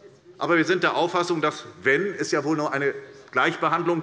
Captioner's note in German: none